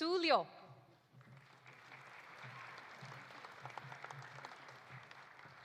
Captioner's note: audience applauding